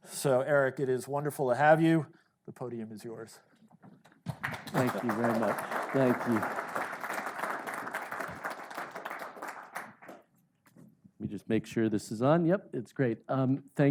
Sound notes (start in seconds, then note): 4.1 audience clapping